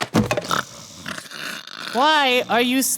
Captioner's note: snoring